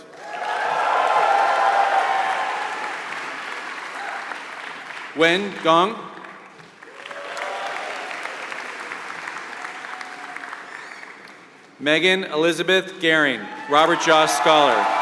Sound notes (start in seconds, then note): 0.0 applause